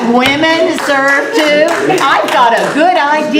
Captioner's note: applause